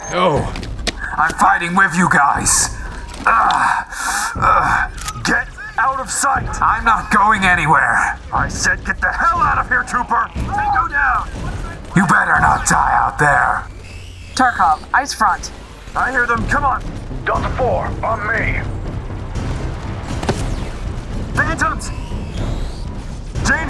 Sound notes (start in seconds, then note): 17.9 over Comms